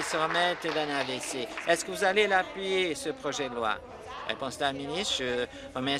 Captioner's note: applause